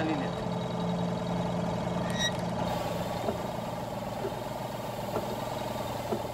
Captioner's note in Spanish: zumbido del motor